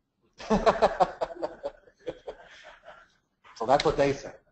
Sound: laugh

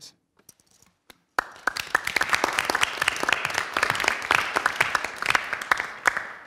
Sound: applause

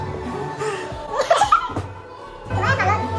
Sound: exhale!

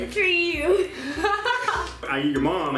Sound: laughing

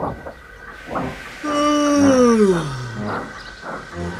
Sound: yawn

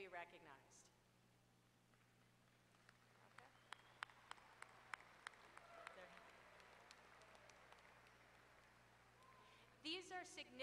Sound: applause

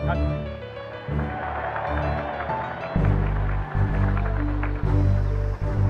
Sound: cheering

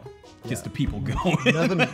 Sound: laughing

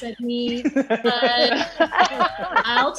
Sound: all laughing

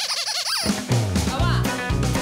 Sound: toy squeaking

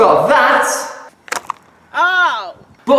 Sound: cup twanging back

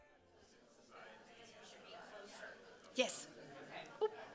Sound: audience chatting

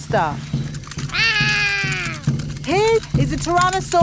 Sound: roaring

